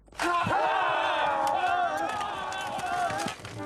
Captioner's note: cheering and charging